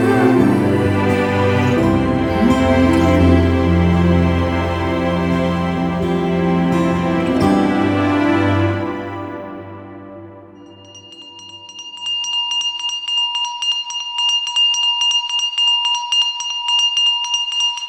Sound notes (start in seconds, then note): 10.5 ice cream vendor bell tinkling